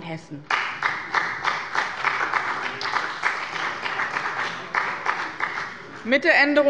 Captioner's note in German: Beifall bei dem BÜNDNIS 90/DIE GRÜNEN und der CDU